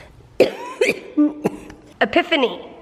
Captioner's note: coughing